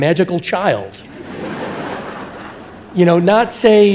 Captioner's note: audience laughing